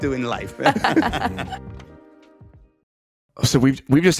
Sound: group laughing

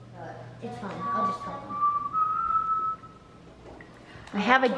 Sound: whistles

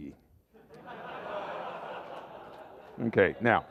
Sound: laughter

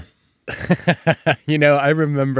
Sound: laughing

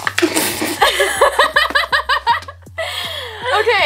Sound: laughs

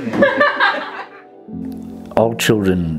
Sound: laughter

